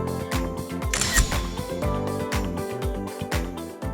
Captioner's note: upbeat music; camera clicks; upbeat music